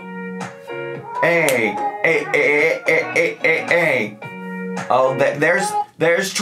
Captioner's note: making music sound effects